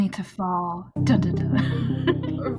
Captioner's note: laughs